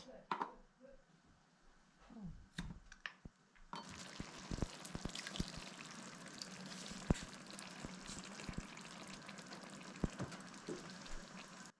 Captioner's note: water splashing